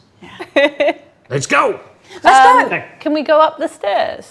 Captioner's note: overlapping chattering